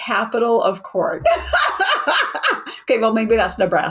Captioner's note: laughs